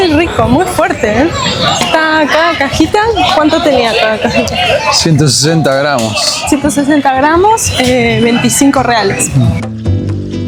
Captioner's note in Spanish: risas